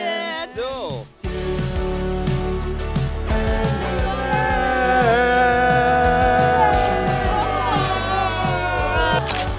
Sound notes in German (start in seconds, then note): 1.8 Fröhliche Musik; 4.0 Freudige Laute